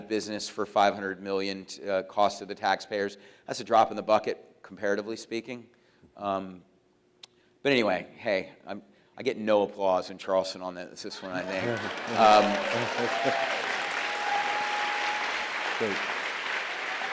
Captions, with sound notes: of business for $500 million cost to the tax payers, that's a drop in the bucket comparatively speaking. But anyway, hey, I get no applause in Charleston on that. It's just when I name... (applause)